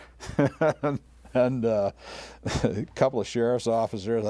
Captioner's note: laughing